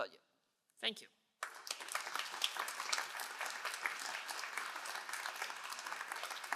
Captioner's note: all applauding